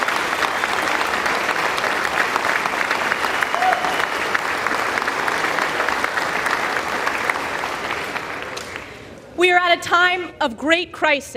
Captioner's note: applause